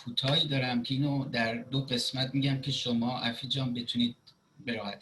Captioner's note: speaking Farsi